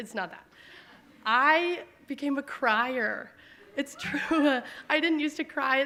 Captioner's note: laughs